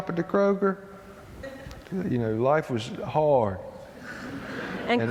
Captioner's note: laughter